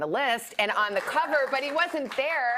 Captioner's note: applause